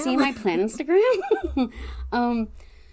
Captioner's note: laughs